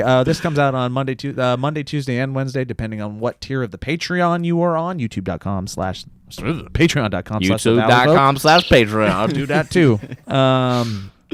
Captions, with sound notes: Hey, this comes out on Monday, Tuesday, and Wednesday, depending on what tier of the Patreon you're on. YouTube.com/ (shudders) patreon.com/thevalleyfolk - YouTube.com/patreon - Do that too!